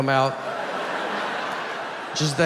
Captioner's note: audience laughs